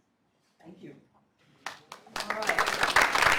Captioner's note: applause